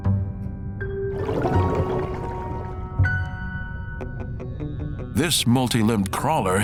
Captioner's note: water gurgles; gentle, quiet music